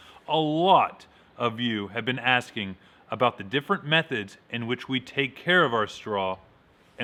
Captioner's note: none